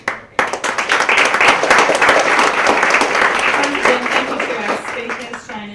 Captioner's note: applause